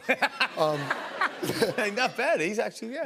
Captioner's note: laughs